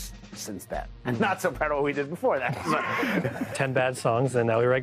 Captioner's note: laughter